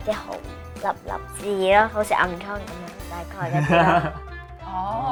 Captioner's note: laughing